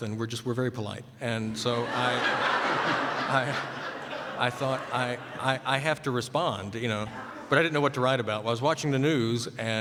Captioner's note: laughter